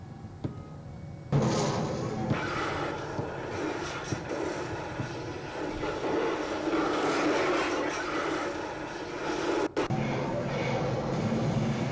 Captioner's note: exploding